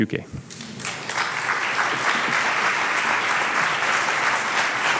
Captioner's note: audience applauds